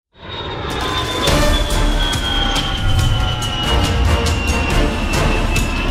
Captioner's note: airplane whooshing; dramatic music